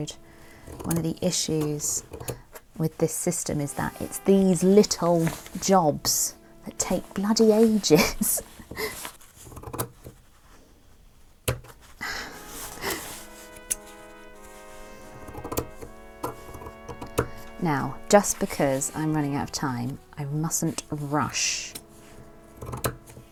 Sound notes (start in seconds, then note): 17.6 scissors struggling